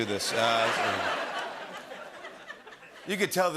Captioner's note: laughter